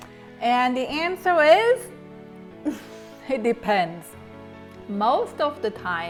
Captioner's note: sighs